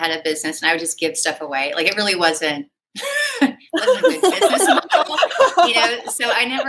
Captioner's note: laughter